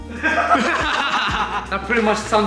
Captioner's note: laughing